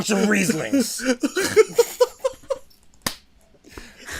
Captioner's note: laughter